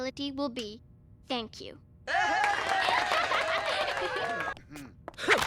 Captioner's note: crowd cheers